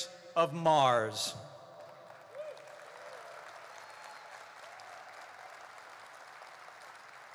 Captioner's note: applause